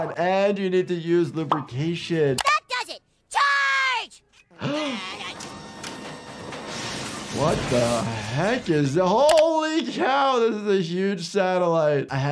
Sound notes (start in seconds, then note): 3.3 Cartman shouts; 4.6 gasps; 5.7 robotics whirring